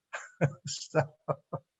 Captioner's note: laughs